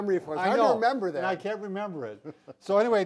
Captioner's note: laughs